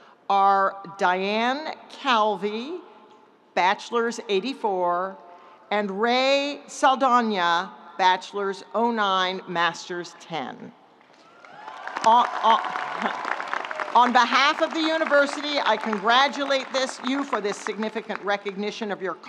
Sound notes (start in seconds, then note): 11.2 audience applauding; 11.3 audience cheering; 13.2 chuckles